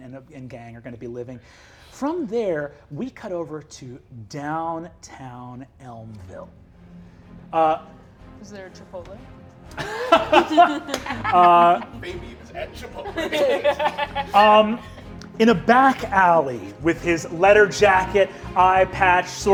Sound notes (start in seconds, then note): 7.2 dramatic music; 9.7 Brennan laughs